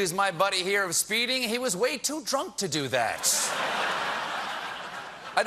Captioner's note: laughter